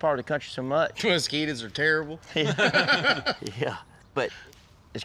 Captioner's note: laughter